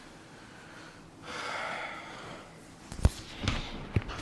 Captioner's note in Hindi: गहरी सांस लेने की आवाज़